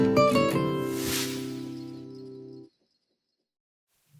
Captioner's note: sound effect